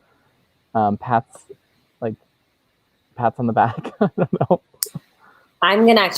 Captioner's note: laughs